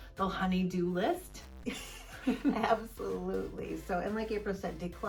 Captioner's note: laughs